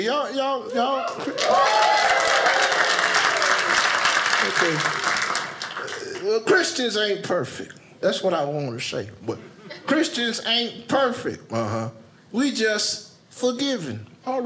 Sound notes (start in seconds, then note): 0.7 audience cheers; 0.8 audience applauding